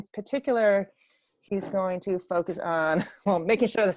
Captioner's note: laughs